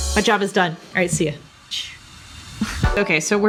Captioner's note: laughs